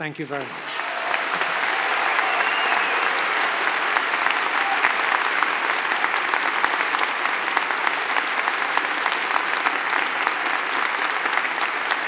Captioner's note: applause